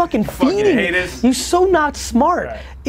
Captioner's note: laughs